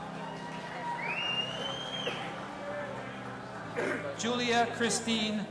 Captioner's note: audience applauding and cheering